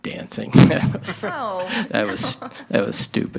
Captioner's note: chuckles